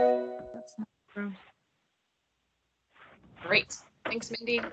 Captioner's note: Zoom notification